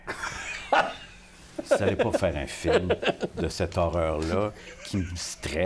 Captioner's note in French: éclat de rire